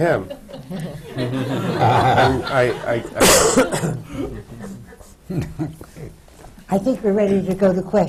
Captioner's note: laughter